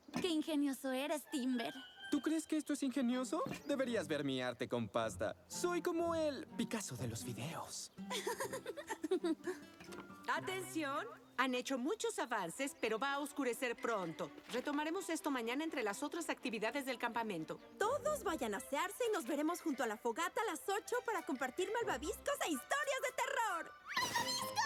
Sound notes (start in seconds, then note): 8.0 giggle